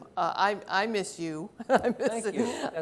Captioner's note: laughs